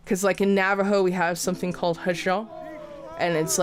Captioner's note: speaks foreign